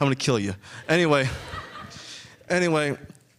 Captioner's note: audience chuckling